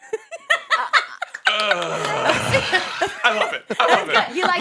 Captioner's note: host laughs